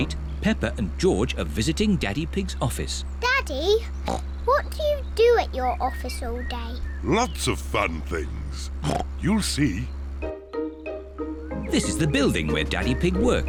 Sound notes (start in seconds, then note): 7.8 oinks